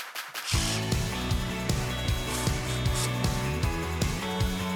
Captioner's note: bright music; tool whirring